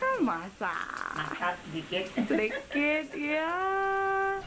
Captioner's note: woman speaking native language